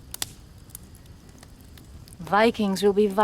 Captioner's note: fire crackling